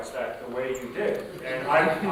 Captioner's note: chuckling